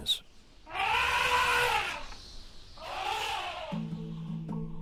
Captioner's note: elephant trumpets